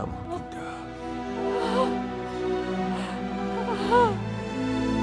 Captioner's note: All crying